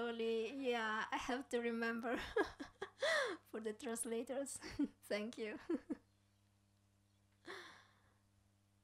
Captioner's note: laughs